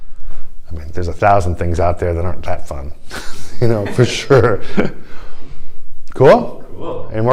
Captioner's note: laughter